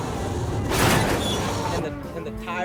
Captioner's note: buses crashing